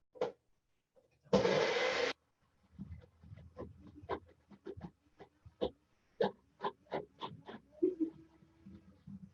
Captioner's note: kitchen background noise